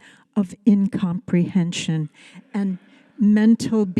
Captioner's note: audience laughing